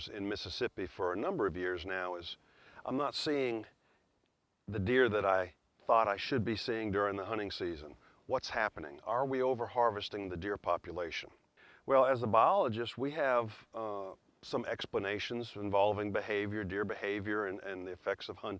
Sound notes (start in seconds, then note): none